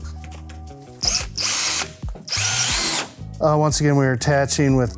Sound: drill whirring

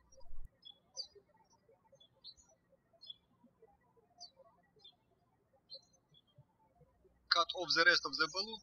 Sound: birds chirping

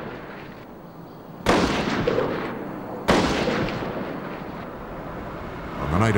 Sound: gunshots

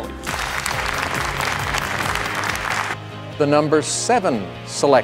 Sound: applause

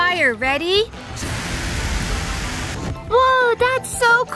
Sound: fire shooting

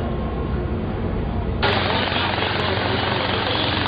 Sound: helicopter sound

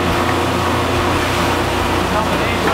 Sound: motor roars

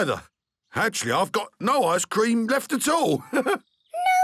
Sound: chuckles

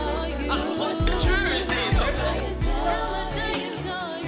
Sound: clinking glasses, chattering

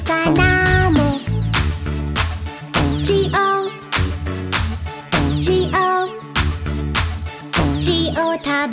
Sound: clap

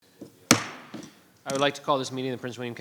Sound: gavel thuds

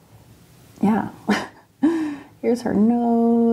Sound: laughs

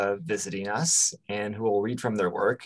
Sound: none

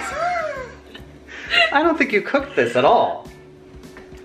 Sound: laughing

